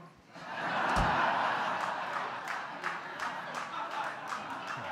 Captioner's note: laughter and applause